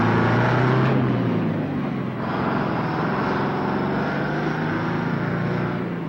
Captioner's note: truck engine whirring